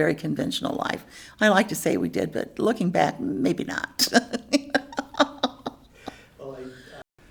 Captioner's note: laughs